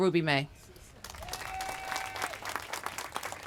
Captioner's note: applause